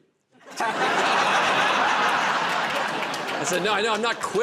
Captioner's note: laughter